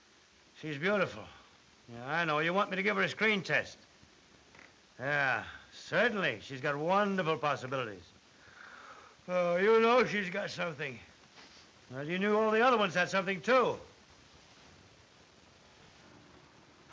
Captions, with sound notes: She's beautiful. Yeah, I know. You want me to give her a screen test? Yeah, certainly. She's got wonderful possibilities. [yawns] Ah, you know she's got something. Well, you knew all the other ones had something, too.